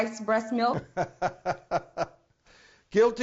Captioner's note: laughs